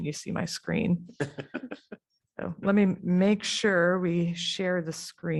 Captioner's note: laughter